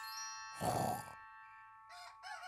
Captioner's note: both snoring; rooster crows